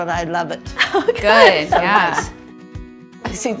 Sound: chuckles

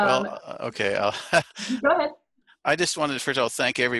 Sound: laugh

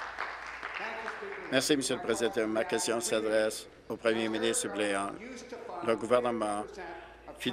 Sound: applause

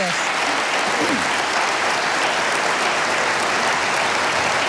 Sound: audience applauding

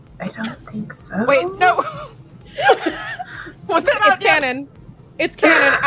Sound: laughter

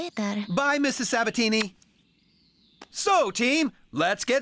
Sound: smack!

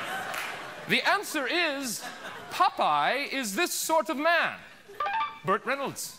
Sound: laughter

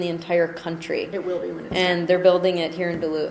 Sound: voiceover

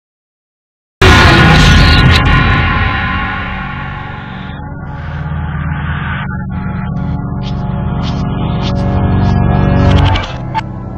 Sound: sound of sci fi horror

